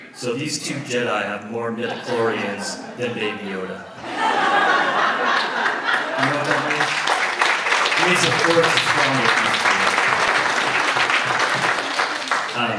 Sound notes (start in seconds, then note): 4.6 audience laughs; 6.8 audience applauds